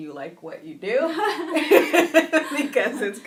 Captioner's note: laughing